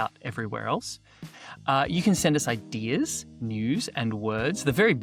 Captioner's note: none